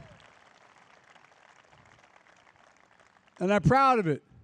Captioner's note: applause